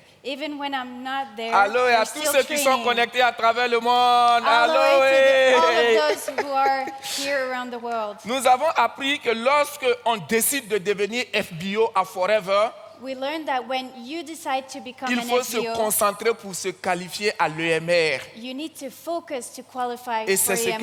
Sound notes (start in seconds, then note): 0.0 continues in French; 2.9 continues in French; 4.4 laughs; 8.2 continues in French; 15.7 continues in French